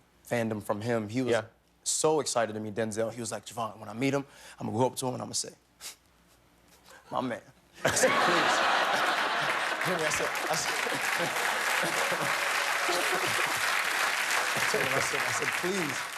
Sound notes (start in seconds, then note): 7.8 laughter; 7.9 applause